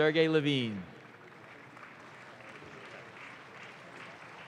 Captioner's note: audience claps